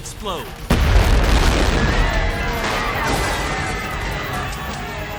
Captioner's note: people screaming